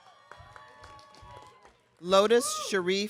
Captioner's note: audience cheering